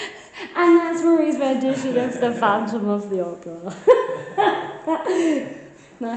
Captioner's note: laughing